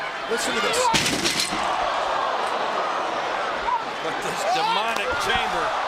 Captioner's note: lexan rattling